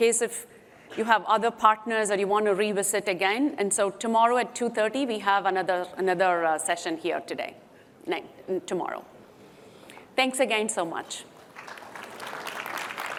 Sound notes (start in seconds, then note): 11.4 applause